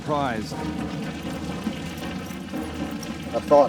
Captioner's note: fire crackling